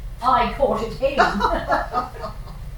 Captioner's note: laughter